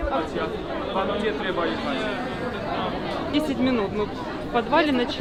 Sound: loud conversations

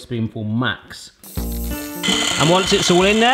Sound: whisking

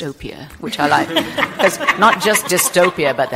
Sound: group laughing

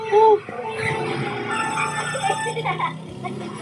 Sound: mariokart 3, 2, 1 go sound plays; engine revving; engine still revving

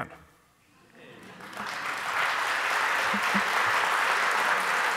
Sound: audience applauding

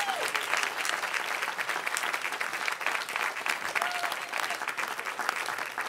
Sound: cheering

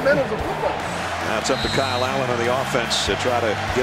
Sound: voiceover

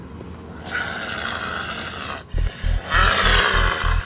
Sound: Damon growls

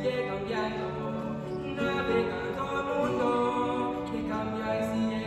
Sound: voices

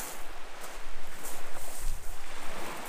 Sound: walking sounds

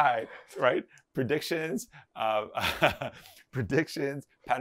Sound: laughs

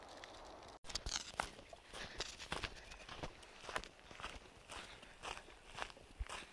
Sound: crunching sounds

